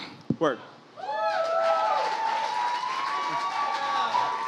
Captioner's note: audience cheers and applauds